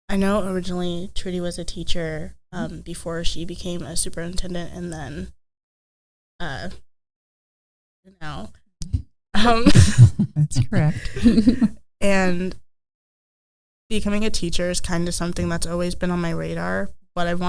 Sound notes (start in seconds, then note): 9.6 chuckling